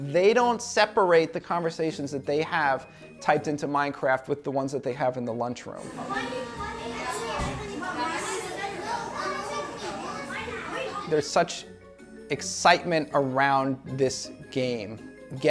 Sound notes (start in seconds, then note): 5.8 students chattering